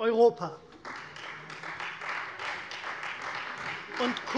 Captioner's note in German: Beifall Freie Demokraten